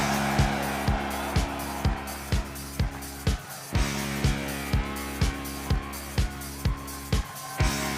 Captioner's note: cheers and applause